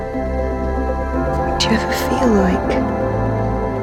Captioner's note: voiceover